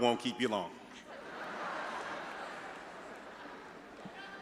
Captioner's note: all laughing